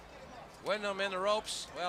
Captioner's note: crowd chatter